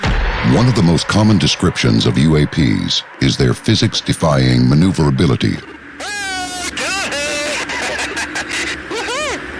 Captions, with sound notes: One of the most common descriptions of UAPs is their physics-defying maneuverability. (pilots shouting)